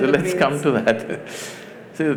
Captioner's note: laughs